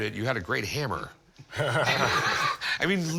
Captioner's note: laughter